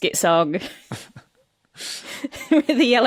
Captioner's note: crack up